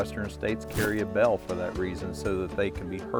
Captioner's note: air whooshing